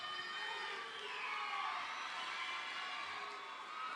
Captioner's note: people cheering